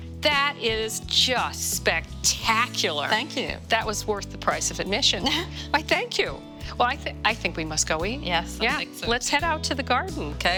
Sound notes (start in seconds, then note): 5.2 laughing